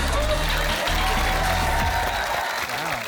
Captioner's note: dance music plays; cheering, applause